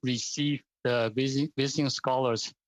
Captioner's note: speaking French